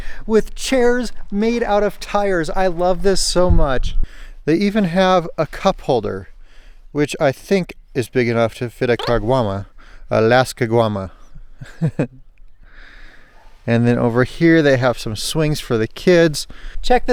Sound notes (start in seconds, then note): 12.4 laughs